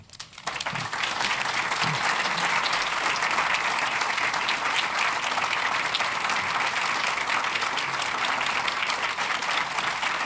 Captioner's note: applause